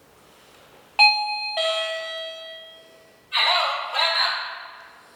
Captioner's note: chime reaction!!